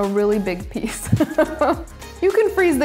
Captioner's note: laughs